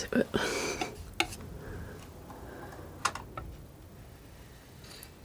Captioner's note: tapping